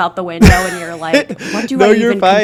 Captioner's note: laughs